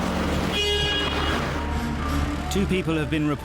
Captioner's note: vehicle horn blowing